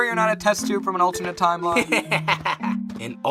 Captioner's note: test tube laughing